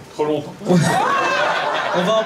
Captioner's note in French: rires public